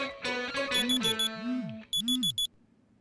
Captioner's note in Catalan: Sona alarma del mòbil